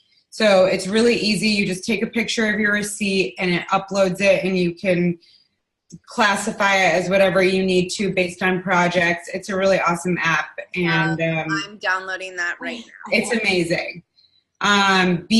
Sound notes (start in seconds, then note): 12.6 laughing